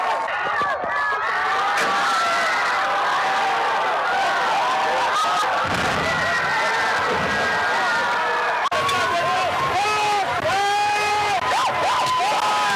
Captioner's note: shouting